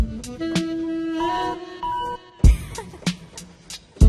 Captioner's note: computer beeps; laughs